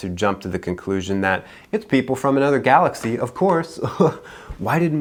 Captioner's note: chuckles